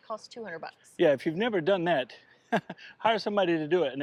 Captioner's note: laughs